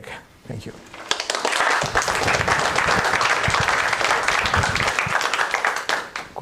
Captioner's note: applause